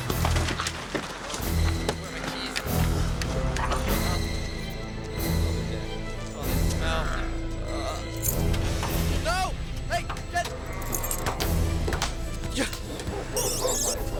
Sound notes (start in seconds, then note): 2.8 keys Jingling; 9.5 engine Starting